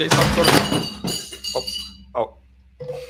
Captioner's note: objects crashing